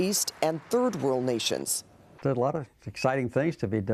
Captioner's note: applause